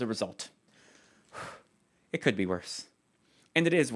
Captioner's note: relieved sigh